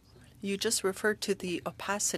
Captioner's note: speaking French